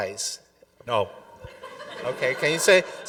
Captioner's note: audience laughing